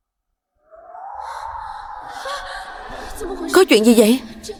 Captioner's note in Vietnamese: la hét